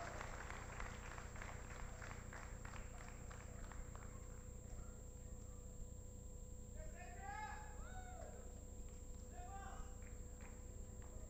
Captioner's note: applause